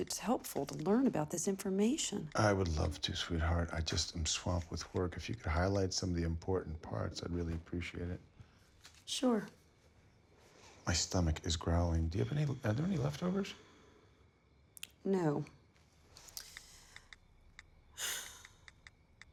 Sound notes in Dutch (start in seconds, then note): 15.6 zucht